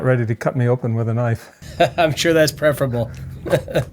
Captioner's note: laughs